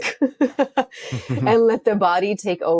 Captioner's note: both laughing